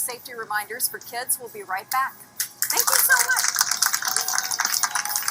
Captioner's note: applause